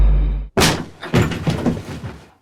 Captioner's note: body falling sound